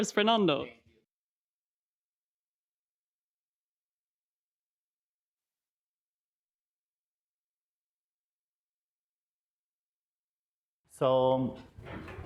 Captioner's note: sadly no audio for one minute